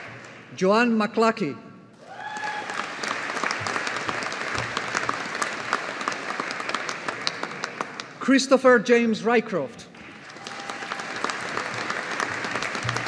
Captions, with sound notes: Joanne Mcluckie. (AUDIENCE APPLAUDING) Christopher James Rycroft. (AUDIENCE APPLAUDING)